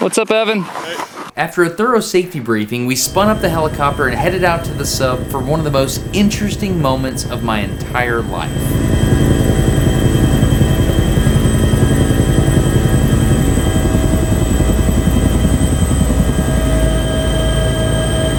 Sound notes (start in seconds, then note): 10.0 helicopter blades whirring